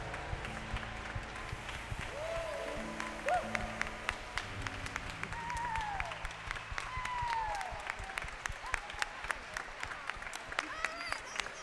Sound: applause

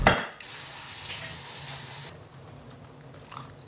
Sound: water running

